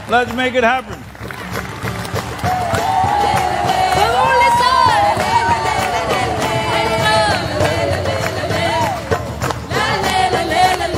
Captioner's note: cheering/Applause